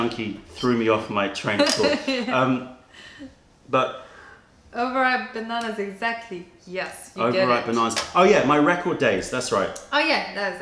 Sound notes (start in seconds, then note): 2.3 sips tea